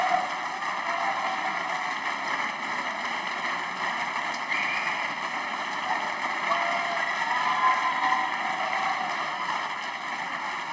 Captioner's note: applause